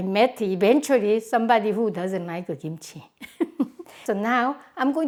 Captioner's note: laughs